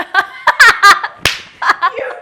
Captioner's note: laughs